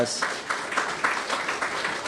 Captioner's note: applause